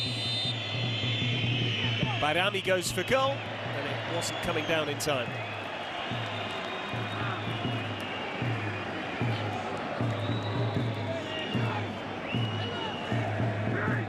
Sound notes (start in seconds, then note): 3.1 whistle; 3.5 crowd noise